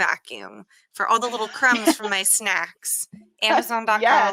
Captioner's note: laughs